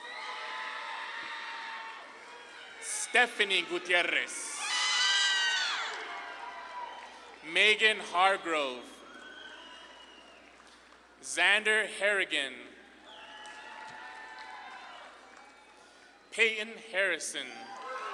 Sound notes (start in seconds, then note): 0.0 audience claps and cheers; 8.8 audience claps and cheers; 12.9 audience claps and cheers; 17.5 audience claps and cheers